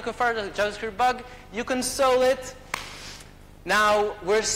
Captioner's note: claps hands